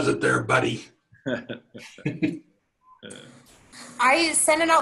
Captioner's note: laughter